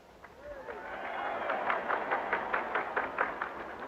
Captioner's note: audience cheering